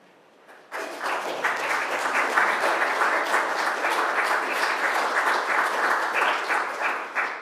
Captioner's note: applause